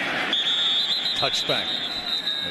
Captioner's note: whistles